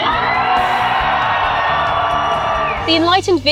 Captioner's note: crowd cheers